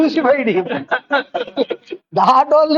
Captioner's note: laughs